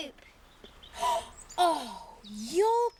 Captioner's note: gasps